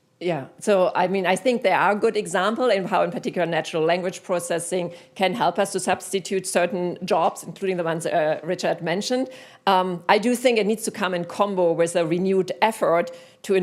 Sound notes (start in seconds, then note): none